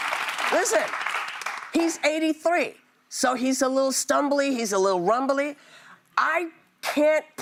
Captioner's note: applause